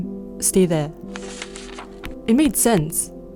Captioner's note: paper rustles